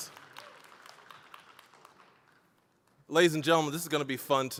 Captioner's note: applause